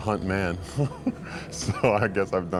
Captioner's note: laughing